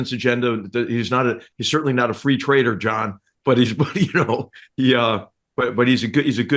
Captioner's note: laugh